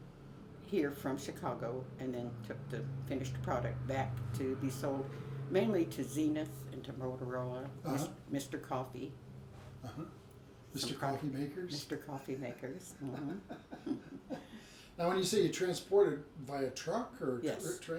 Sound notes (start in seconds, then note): 13.0 laughs